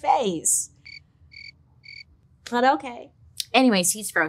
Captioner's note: crickets chirping